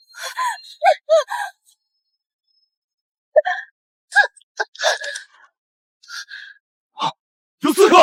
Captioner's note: aaaah!